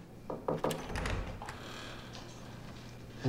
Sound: knocking

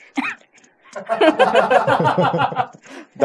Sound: laughs

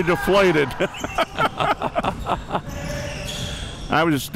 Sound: laughing

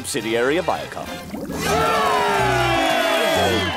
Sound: cheering

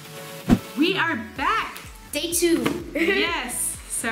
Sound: laughing

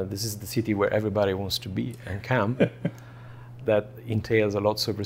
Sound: laughs

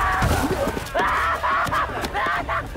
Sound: Patrick Screaming

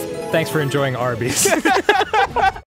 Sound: laughter

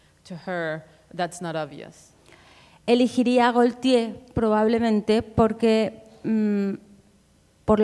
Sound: speaking in Spanish

